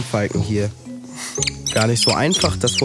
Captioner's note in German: Zwitschern